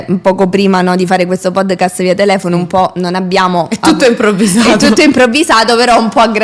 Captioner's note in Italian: risate